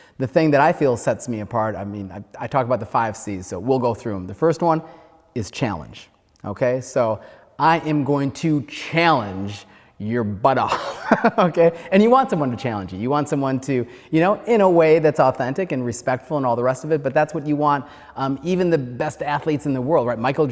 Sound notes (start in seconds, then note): 10.6 laughs